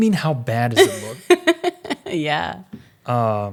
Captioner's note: laughs